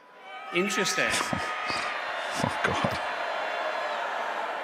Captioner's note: laughing